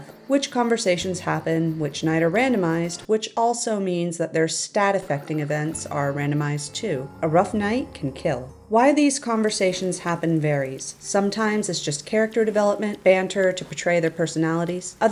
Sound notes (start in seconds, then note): 7.1 mournful bell